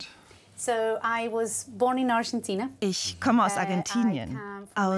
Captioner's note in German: englisch